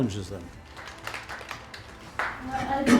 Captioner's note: audience applauding